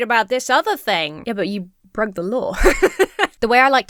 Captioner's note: laughs